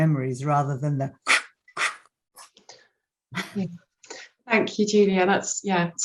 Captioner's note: squawking